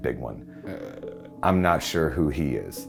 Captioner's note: groans